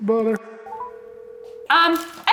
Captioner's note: phone dialing